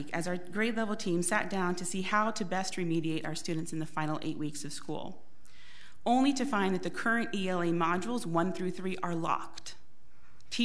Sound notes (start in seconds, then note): none